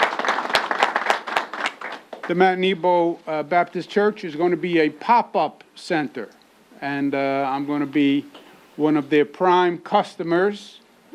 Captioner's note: applause